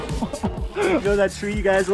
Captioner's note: chuckles